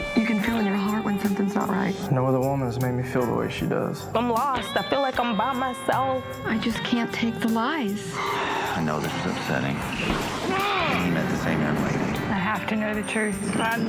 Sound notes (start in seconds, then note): 10.2 yells